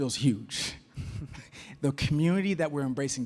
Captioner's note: laughs